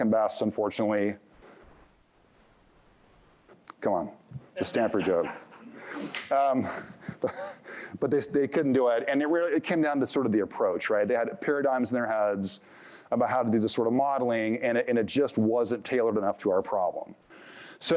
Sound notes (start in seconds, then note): 4.9 laughter; 6.5 chuckles